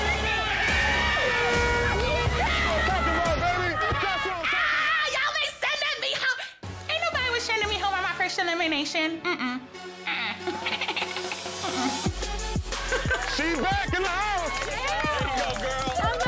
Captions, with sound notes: (horn blast) - Ah, y'all be sending me home? Ain't nobody was sending me home on my first elimination. (cackles) (cheering) - She back in the house! (cheering and yelling)